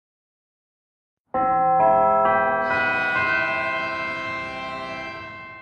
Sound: bells chime

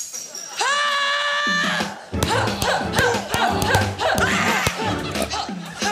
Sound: shattering sound effect; yells, grunts repeatedly; action music plays

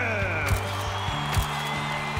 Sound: whistles; camera clicks

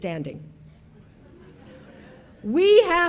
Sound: audience laughing

